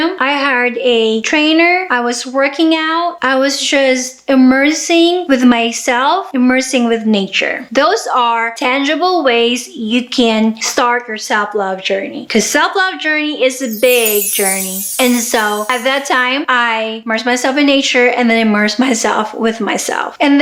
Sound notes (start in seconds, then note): 13.6 magical chimes